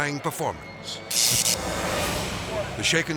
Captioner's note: electricity buzzes